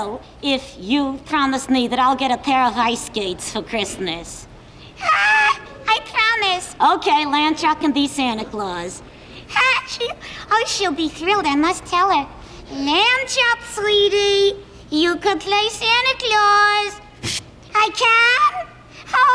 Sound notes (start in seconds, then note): 8.2 Lamb Chop laughs; 17.2 Lamb Chop blows air